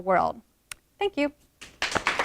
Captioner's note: applause from audience